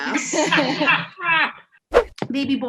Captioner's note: all laugh